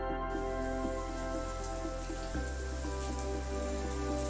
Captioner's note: water pouring